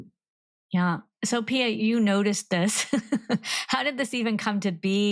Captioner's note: laughs